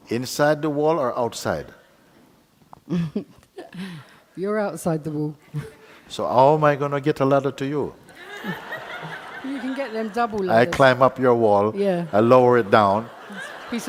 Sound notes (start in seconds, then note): 8.1 audience laughs